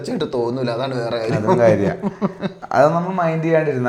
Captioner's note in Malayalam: പൊട്ടിച്ചിരി